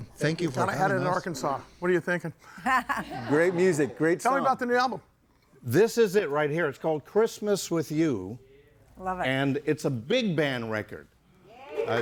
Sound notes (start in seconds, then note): 2.6 laughs; 3.3 audience laughing